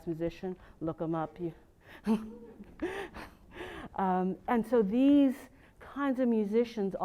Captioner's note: laugh